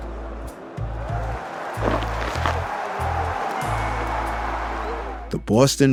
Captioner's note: crowd cheers